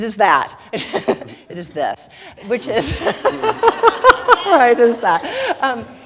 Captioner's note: laughing